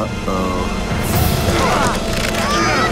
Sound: grunting

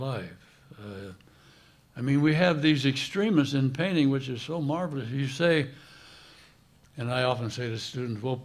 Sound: none

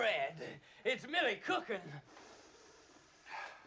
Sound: takes deep breath

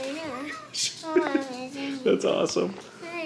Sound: man laughs

